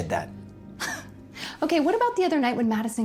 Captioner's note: chuckles